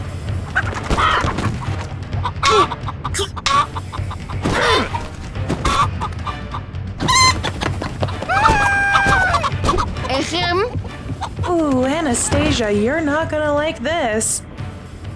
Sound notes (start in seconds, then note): 8.1 screams